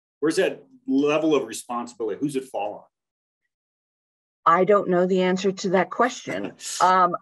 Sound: talking

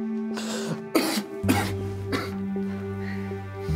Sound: coughs

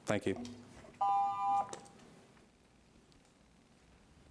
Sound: alarm beeping

